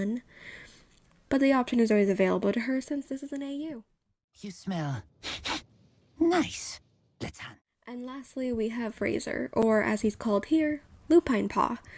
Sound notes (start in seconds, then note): 5.2 sniff sniff